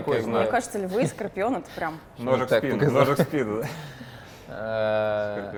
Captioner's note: joking and talking